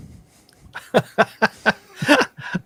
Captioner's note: laughter